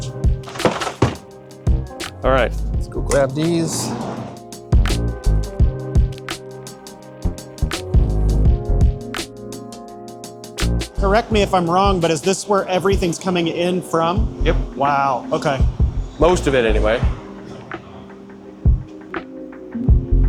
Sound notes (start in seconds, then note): 0.4 tray clatters; 0.6 soft upbeat music; 3.7 soft upbeat music; 17.1 soft upbeat music